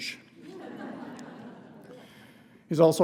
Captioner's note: laughter